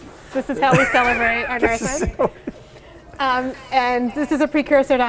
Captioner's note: laughing